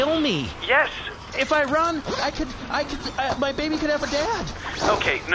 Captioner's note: zips up pants